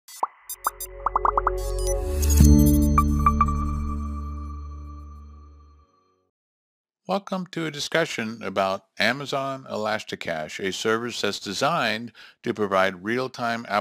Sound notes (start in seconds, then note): 0.2 electronics beeping; 1.0 bubbles popping; 2.3 chiming music